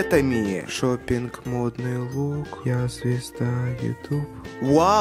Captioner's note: humming some russian pop hit song